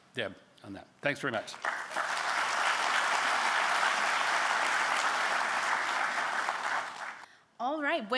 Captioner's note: applause